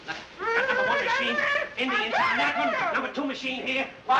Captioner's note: babbling